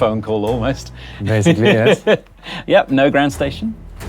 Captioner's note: laughs